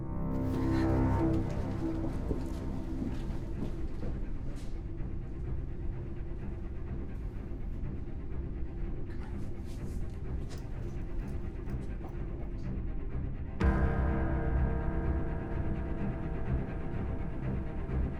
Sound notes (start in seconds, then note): 0.1 suspenseful orchestral music; 9.2 whispering; 12.2 suspenseful orchestral music